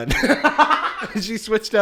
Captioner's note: cackles